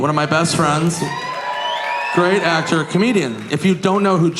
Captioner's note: audience cheering